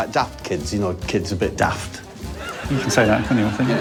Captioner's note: audience cheering